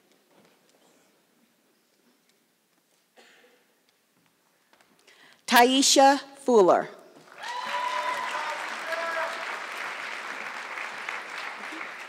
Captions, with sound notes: Tiesha Fuller. (audience clapping)